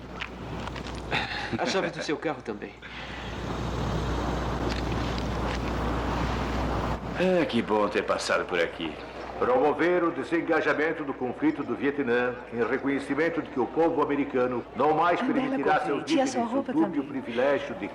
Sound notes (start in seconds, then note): 1.1 laughs; 6.8 man On Loudspeaker